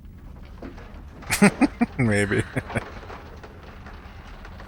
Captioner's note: laughing